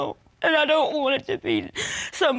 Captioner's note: sobs